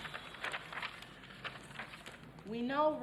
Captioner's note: paper crackling